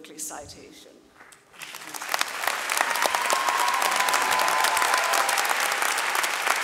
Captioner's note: audience cheering and clapping